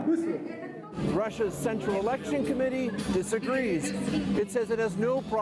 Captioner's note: speaking russian